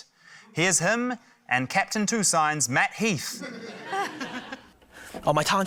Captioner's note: laughter